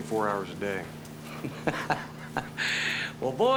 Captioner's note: chuckles